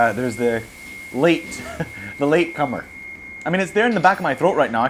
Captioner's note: chuckles